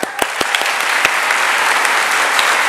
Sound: applause

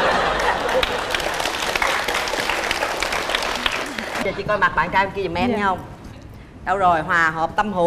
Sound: applause

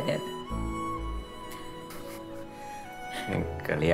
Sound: both giggle

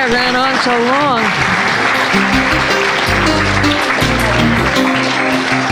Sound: applause, audio logo

